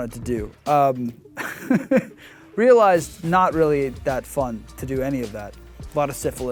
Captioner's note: laughing